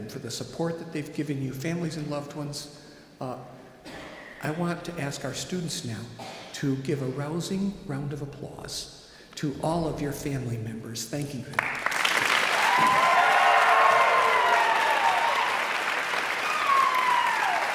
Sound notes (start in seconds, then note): 11.5 all clapping; 11.9 audience cheering